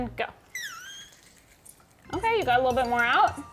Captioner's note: machine squeaking